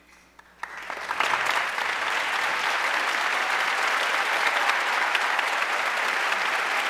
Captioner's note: audience cheering and applauding